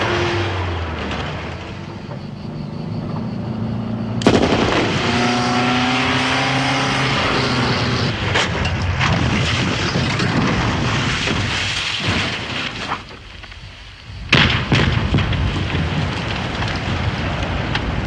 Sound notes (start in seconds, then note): 4.2 gunfire